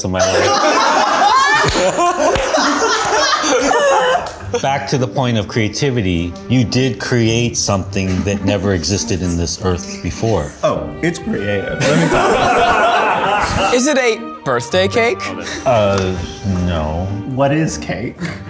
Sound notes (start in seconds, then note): 0.2 laughter; 11.8 laughter